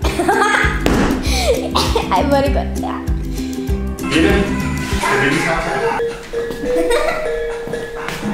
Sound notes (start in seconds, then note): 1.2 laughing; 5.4 laughing